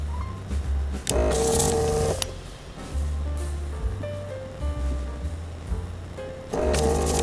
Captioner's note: motor whirring